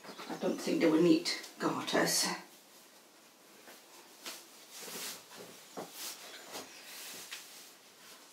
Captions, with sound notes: I don't think they will need garters. (fabric rustles softly)